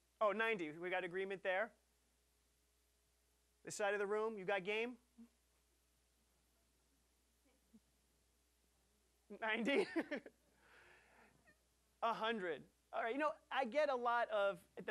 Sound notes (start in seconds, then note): 9.4 laughing